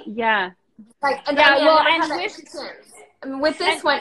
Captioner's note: both mumbling